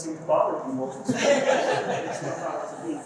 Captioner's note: laughter